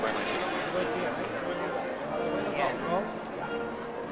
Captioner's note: overlapping chatter